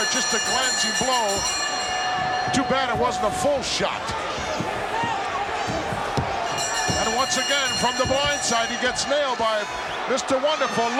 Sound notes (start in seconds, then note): 0.0 bell rings; 6.4 bell rings